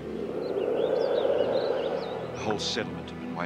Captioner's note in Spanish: viento silbando